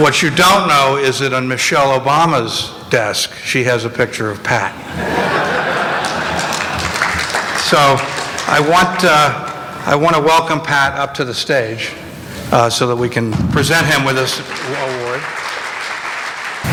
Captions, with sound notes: What you don't know is on Michelle Obama's desk, she has a picture of Pat. (laughter and applause) So, I want to welcome Pat up to the stage, so that we can present him with this award.